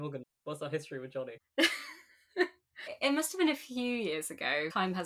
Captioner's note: laughs